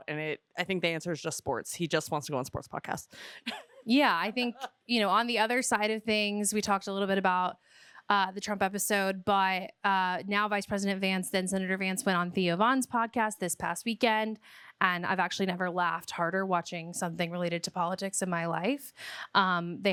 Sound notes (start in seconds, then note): 3.4 chuckles